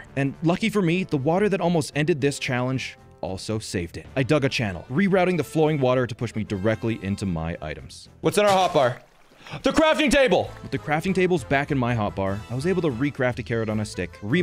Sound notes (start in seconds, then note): 9.2 gasping